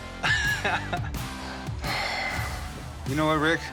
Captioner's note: laughs; sighs